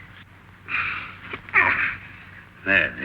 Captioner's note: grunts